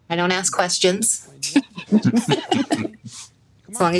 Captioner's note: all laugh